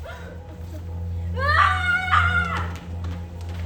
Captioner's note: laughing; Angy Gwinch Noises